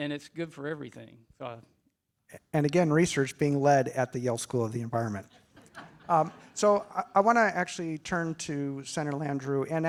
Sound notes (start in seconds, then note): 5.3 attendees chuckle